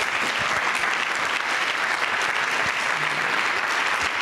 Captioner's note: audience clapping